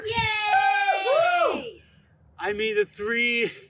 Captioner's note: cheering